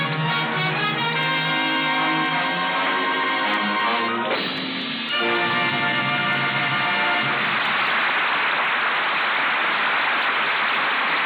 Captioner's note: applause